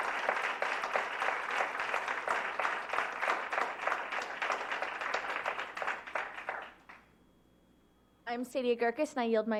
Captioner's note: applause